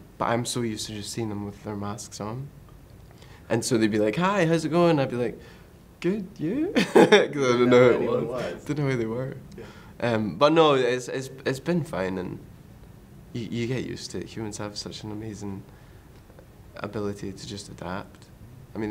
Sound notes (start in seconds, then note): 6.7 laughs